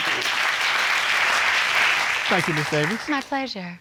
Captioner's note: audience clapping